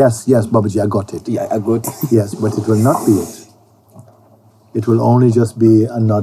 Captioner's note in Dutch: lacht